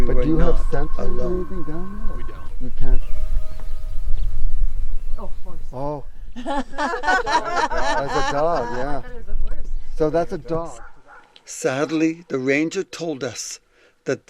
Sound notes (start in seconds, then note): 3.5 animal howling; 6.3 all laughing